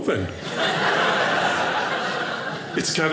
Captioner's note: audience laughing